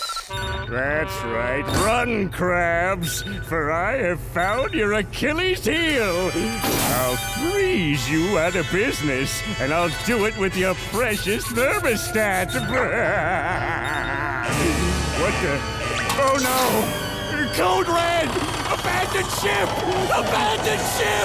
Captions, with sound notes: That's right, run, Krabs, for I have found your Achilles heel. I'll freeze you out of business, and I'll do it with your precious thermostat. [laughing] What the? On, no. Code red! Abandon ship! Abandon ship!